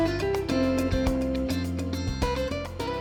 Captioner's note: guilty shuffle